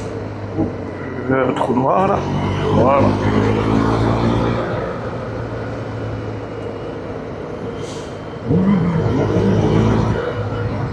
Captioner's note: engine